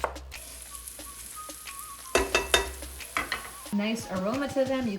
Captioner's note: onions sizzling